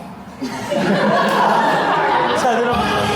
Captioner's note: laughter